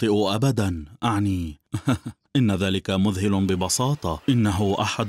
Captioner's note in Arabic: يضحك